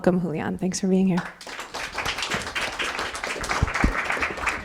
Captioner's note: audience applause